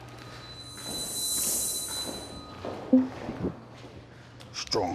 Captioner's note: footsteps plodding